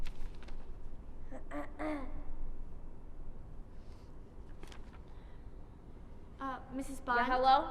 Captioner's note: cough